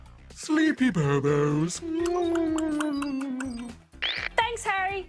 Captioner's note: yawns